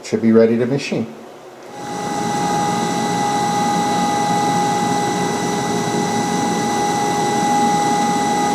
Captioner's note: machine sounds